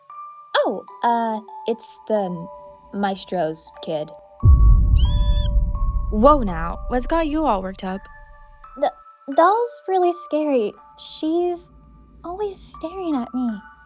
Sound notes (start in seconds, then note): 4.7 high-Pitched Squeal of Fear and Terror